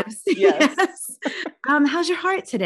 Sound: laughing

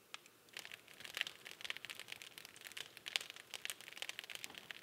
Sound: fire crackling

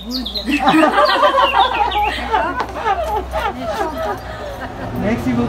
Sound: laughters

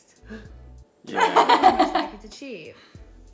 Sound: laughs

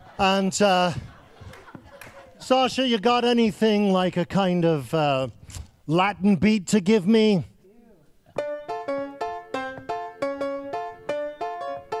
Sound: applause

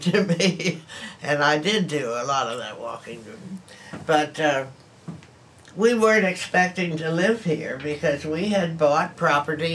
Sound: laughs

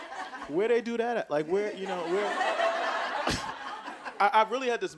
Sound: audience laughing

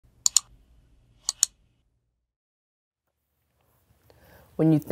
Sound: sound of mouse clicking

